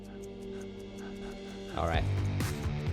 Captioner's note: clock ticking